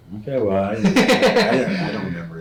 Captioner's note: laughing